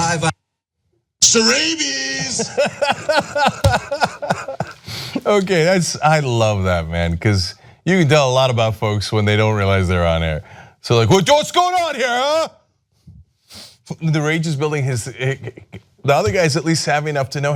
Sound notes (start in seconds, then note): 2.1 laughter